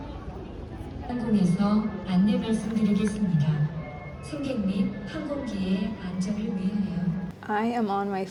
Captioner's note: south Korean airport announcement